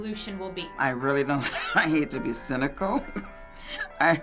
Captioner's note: chuckles